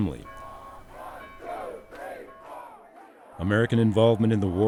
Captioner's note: chanting crowd